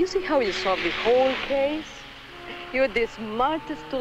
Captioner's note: speaks in Spanish